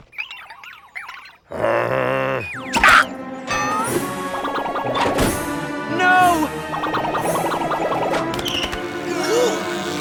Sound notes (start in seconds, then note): 1.4 groans; 8.0 effort grunts